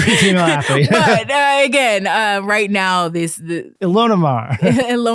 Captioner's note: stammering